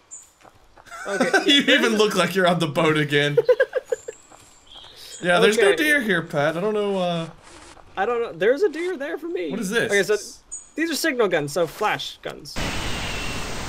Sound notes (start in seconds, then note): 0.8 laughs